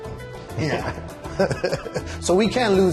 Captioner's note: laughter